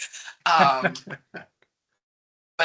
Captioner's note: laughing